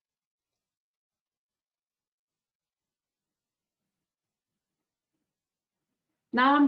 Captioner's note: 5 seconds pause